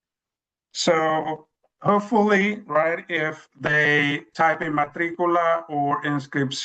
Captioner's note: speaks in Spanish